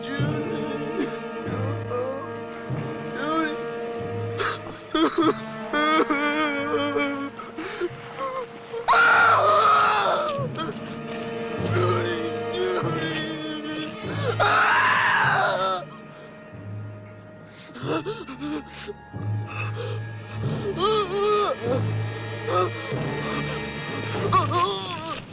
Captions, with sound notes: [ SOBBING ] Judy! [ CRYING ] [ CRYING AND SCREAMING ] Judy!, Judy! [ CRYING ]